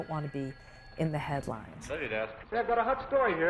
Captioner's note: phone ringing